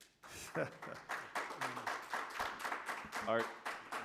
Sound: applause

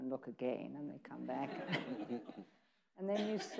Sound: people laughing

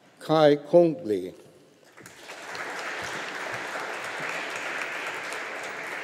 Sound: audience applauding

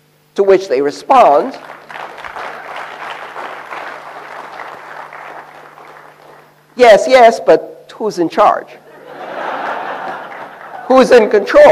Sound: applause; laughter

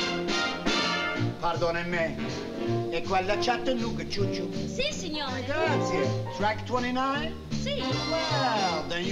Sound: non-english

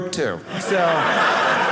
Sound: audience laughing

